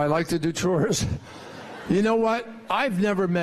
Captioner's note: laughter